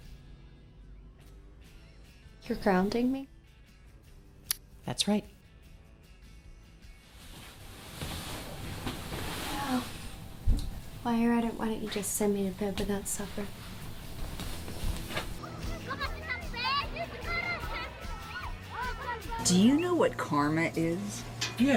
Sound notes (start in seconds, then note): 15.4 children playing; 15.4 upbeat rock music